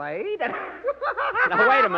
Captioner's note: laughter